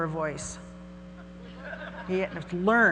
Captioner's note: audience laughing